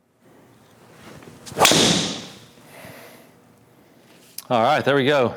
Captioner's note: loud noise coming from a ball